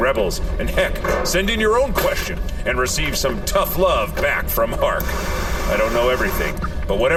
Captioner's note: blowtorch sounds